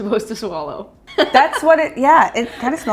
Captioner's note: laughs